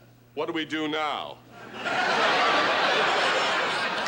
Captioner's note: laughter